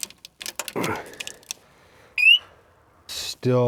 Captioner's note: imitates operator chirping; grunts; operator beeps